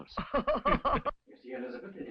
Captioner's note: Elizabeth laughing